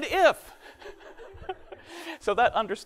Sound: laughs

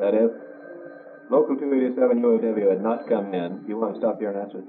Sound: telephone rings

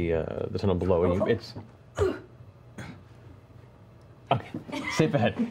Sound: grunt

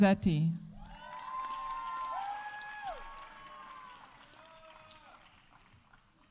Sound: audience cheering; audience applauding

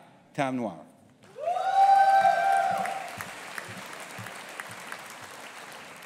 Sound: audience applauding and cheering

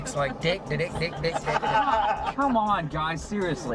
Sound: everyone laughs

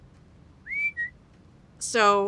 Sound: whistle

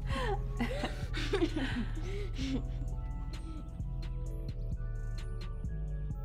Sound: soft r&b music; laughter

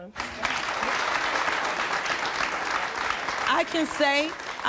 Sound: audience applauding

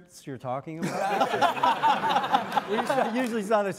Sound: all laughing

